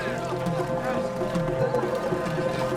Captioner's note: soldiers murmuring